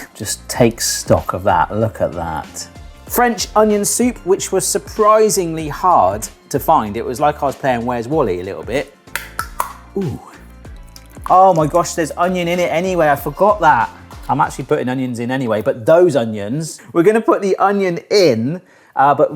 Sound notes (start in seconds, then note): 9.0 can tab cracking